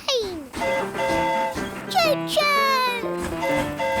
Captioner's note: train horn hooting